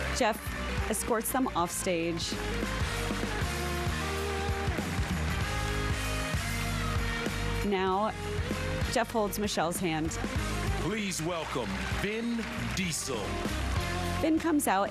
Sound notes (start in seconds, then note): 1.3 applause